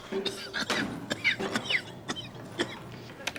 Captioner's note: coughing